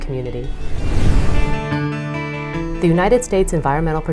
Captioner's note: woosh